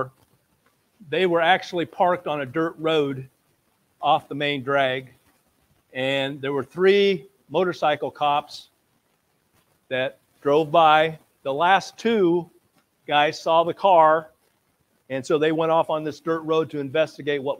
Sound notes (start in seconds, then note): none